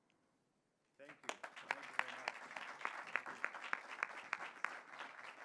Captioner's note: audience applauds